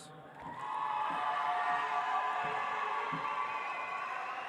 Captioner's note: audience applauds